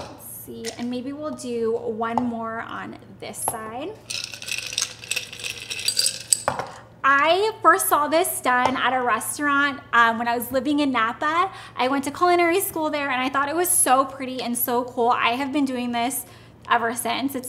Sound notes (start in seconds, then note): 4.0 ice clattering